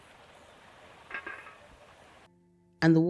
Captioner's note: clunk